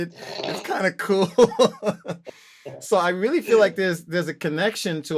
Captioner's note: laughter